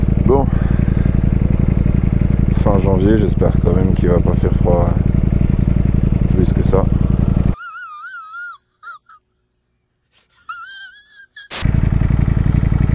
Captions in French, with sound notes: Bon ! Fin janvier j'espère quand même qu'il va pas faire froid plus que ça... [RIRE]